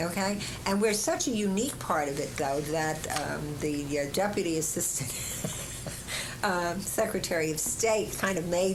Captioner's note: laughter